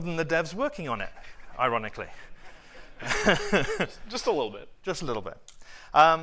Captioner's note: laughter